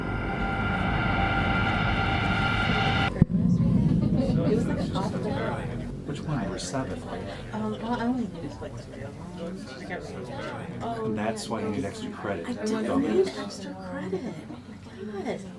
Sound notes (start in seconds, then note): 1.3 ominosa de la música; 4.0 gente hablando